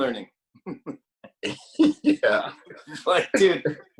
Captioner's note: both laugh